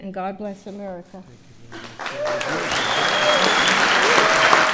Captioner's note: applause